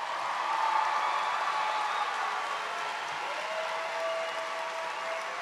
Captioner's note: cheers and applause